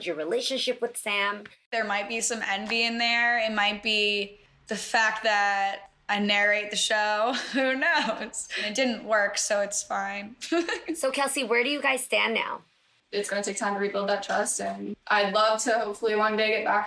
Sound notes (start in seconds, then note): 7.3 chuckles; 10.4 chuckles